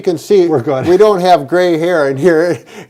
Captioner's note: laughs